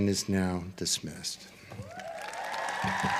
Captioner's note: applause